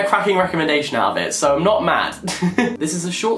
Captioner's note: laughs